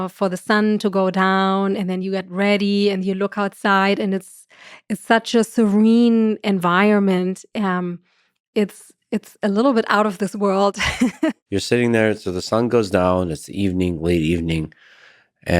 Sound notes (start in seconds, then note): 10.8 chuckles